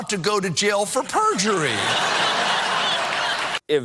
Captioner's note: laughter